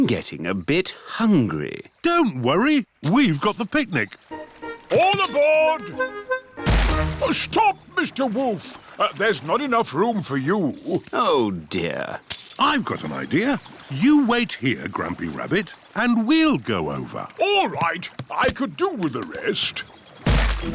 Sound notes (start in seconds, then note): none